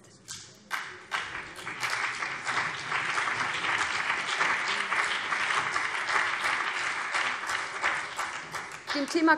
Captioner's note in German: Beifall BÜNDNIS 90/DIE GRÜNEN und vereinzelt CDU